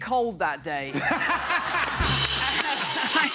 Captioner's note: laughter